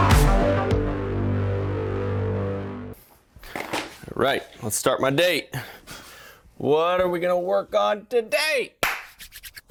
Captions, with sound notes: (objects clattering) Right, let's start my day. What are we gonna work on today? (loud clap)